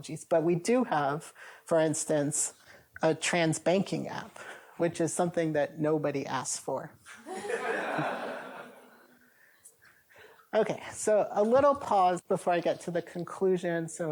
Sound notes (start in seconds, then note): 7.1 laughter